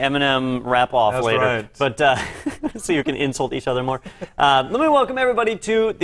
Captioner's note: laugh